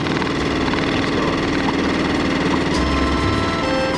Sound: engine roaring

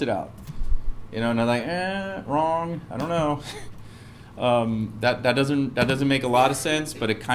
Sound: laugh

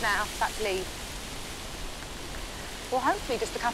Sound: foliage rustling continues

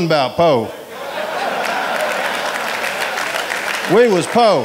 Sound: audience applauding

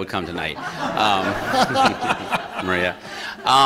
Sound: laughter

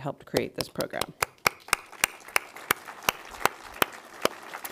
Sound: audience applauds

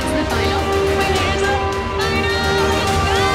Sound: beep

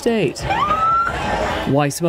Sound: siren squeals

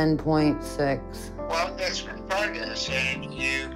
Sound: on phone

